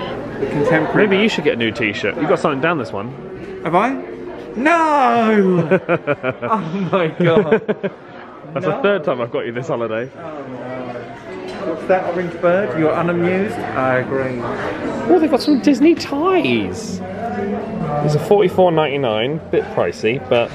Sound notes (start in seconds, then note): 5.2 laughs